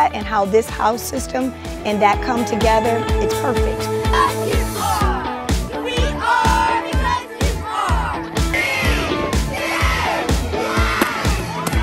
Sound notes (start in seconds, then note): 5.8 children chanting in unison; 8.8 children counting in unison; 11.6 balloons popping